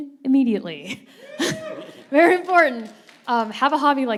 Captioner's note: audience cheering